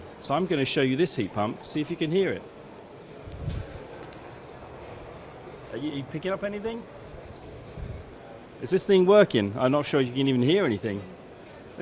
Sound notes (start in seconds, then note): 4.0 no sound - crowd noise in background